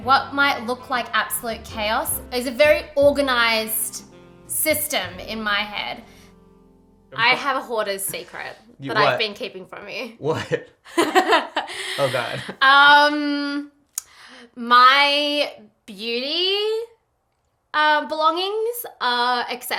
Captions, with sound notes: What might look like absolute chaos is a very organized system in my head. I have a hoarder's secret that I've been keeping from you. - What? (laughter) Oh God. - My beauty belongings are excessive,